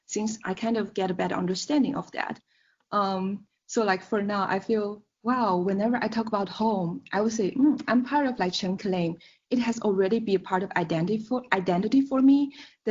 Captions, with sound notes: since I kind of get a better understanding of that. So for now, I feel, wow, whenever I talk about home, I will say, hmm, I'm part of [SPEAKING CHINESE].. It has already been a part of identity for me